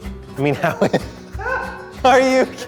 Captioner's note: laughs